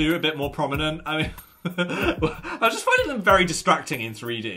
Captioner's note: laughs